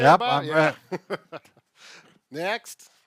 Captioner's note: laughs